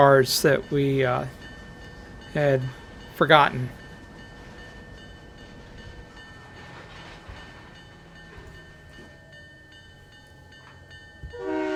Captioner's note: train whistle